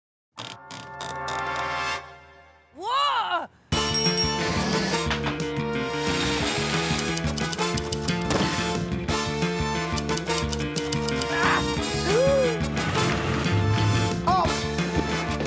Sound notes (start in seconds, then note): 10.0 typewriter clacks; 10.9 gasps